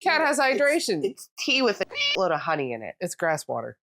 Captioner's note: meow